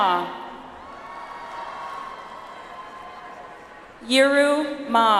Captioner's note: audience applauds